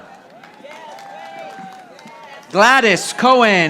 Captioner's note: audience applauding